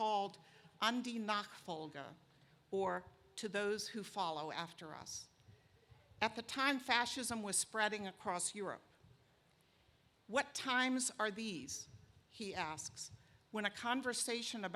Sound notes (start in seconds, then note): none